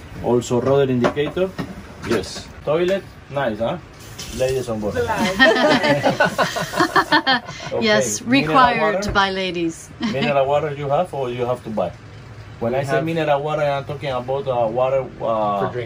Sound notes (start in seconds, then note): 4.8 speaking foreign language; 5.1 all laughing